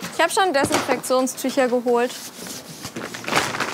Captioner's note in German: none